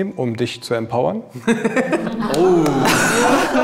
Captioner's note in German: Lachen